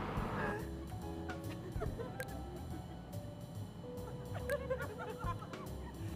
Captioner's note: bright jazz music; women giggling